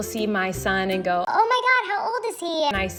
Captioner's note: cartoon voice